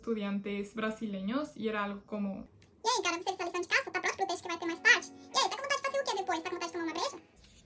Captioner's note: crazy fast Portuguese